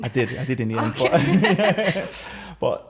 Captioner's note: laughter